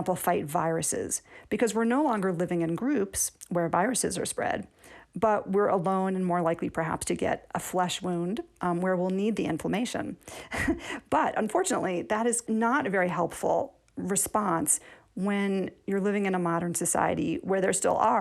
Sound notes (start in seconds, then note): 10.4 laughter